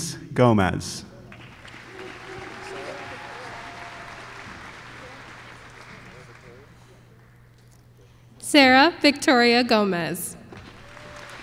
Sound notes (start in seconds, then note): 1.3 applause; 10.5 applause